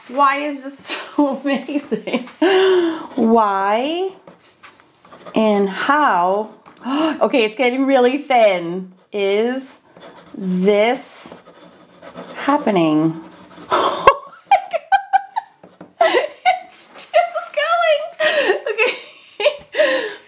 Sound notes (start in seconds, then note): 7.2 gasps; 13.7 laughs